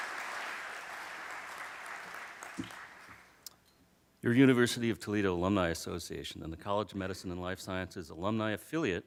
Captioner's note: applause